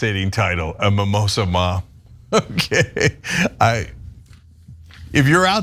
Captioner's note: laugh